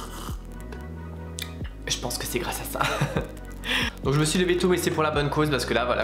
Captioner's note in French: rire